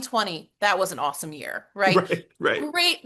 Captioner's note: laughs